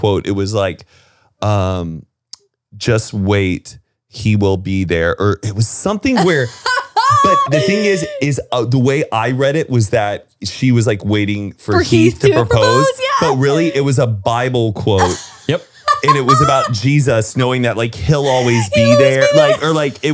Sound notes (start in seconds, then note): 6.1 laughs